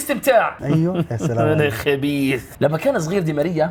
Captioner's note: sneaky laughter